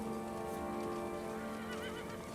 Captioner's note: horse neighing